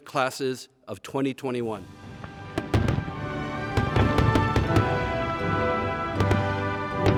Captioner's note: calm orchestral music; fireworks popping